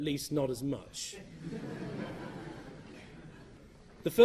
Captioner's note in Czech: Smích